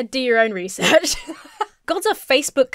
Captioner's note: laughs